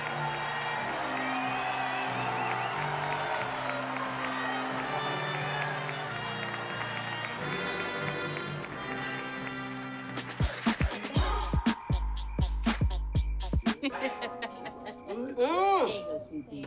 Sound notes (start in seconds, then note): 11.1 hip-hop music playing; 13.7 Cocoa laughs